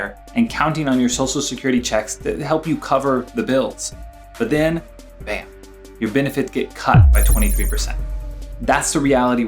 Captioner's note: bam